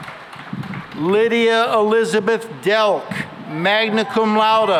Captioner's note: cheering and applause